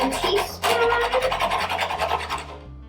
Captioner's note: scrapping sounds